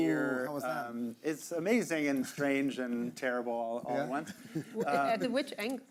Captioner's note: all chuckling